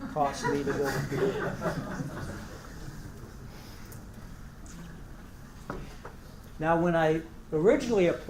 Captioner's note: laugh